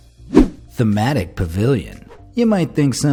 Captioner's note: graphic whooshing